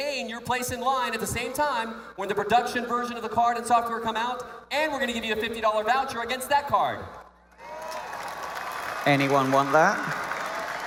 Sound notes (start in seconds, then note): 5.6 cheering; 7.5 applause/Cheering